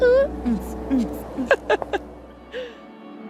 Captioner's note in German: Lachen